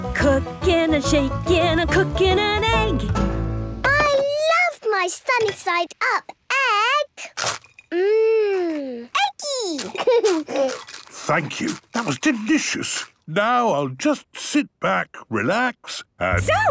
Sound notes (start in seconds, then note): 8.3 laughing, crunching